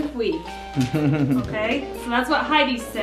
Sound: dad laughing

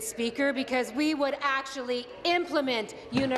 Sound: applause

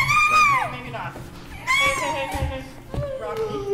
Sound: yelling

